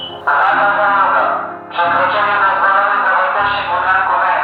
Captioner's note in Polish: Alarm z głośników